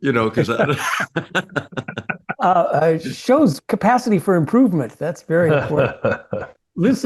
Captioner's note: laugh